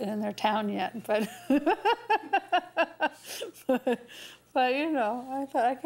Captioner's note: laughs